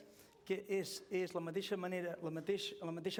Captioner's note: non-english speech